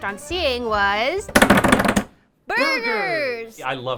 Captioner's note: drum roll with hands